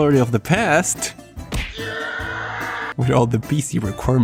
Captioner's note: kick